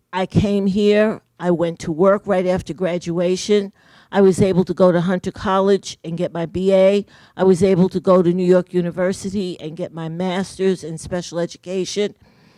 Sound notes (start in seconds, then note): none